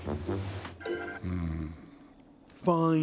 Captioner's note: snoring